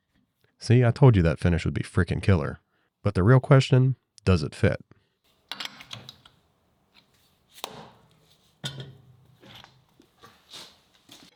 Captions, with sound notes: See, I told you that finish would be fricking killer, but the real question, does it fit? (tool clunks) (hammer thuds)